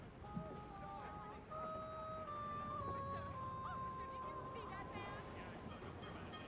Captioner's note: indistinct background chatter continues